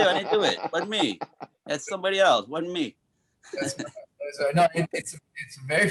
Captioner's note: chuckles